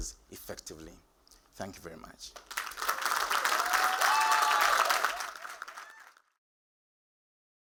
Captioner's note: applause